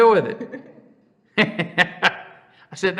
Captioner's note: laughs